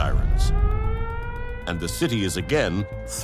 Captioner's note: sirens wailing